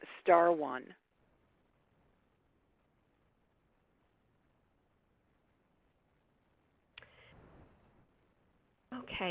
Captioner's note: pause